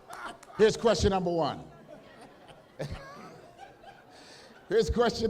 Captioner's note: laughter